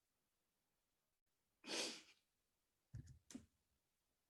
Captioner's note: sniffle